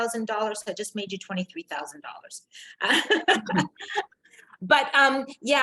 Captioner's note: laughs